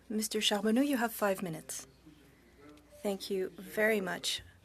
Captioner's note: speaking French